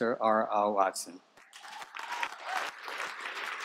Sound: applause

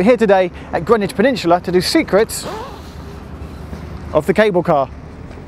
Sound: ZIP Noise

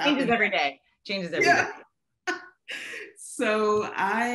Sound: laughing

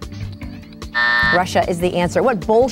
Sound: buzzer going off

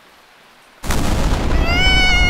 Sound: sound of thunder

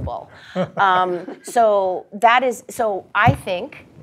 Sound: laugh

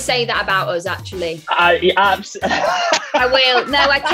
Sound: laughs

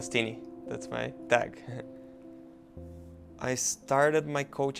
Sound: laughs

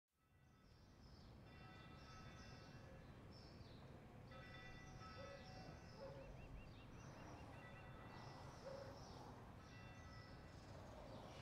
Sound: birds singing, bells chiming

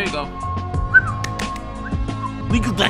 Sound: whistles; clapping noise

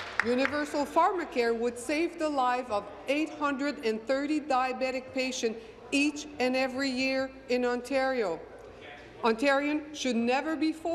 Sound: applause

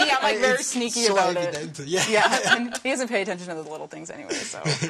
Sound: laughter

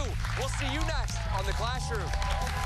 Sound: cheers and applause

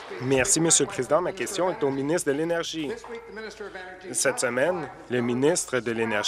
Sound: applause

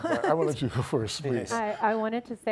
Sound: laughs

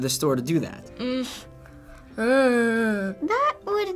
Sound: sighs

